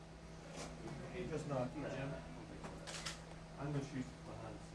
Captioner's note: crew chattering